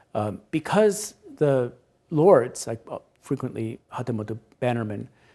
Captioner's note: speaks Japanese